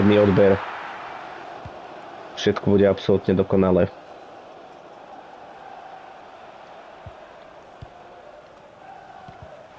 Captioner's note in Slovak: Potlesk